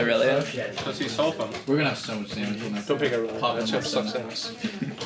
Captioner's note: all chattering